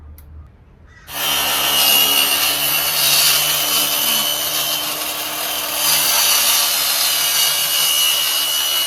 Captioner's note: circular saw makes loud circular saw noise